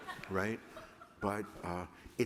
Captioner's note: laughter